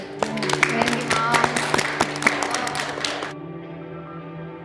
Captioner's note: moms applauding; gentle music